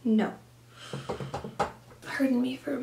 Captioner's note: inhales